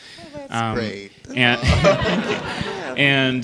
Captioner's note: laughter